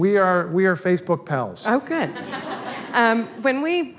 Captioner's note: audience laughter